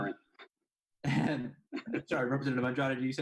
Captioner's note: laughs